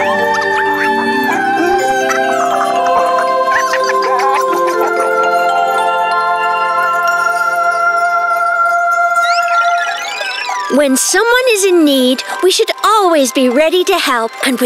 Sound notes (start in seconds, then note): 3.3 all laughing